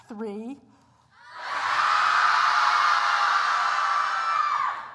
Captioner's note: scream